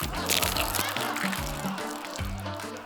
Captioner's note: laughter